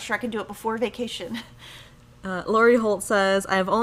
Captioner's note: chuckles